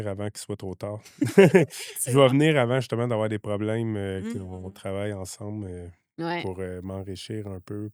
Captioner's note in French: rires